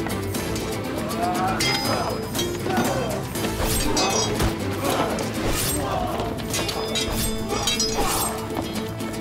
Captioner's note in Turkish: Dövüş sesleri; Kılıç sesleri